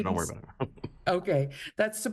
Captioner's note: laughing